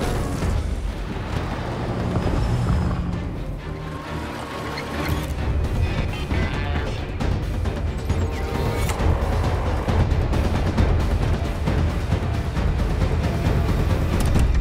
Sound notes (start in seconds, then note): 5.8 Jeff beeping; 9.0 fan motor